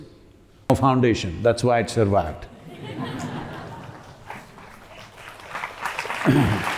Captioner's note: laughter; applause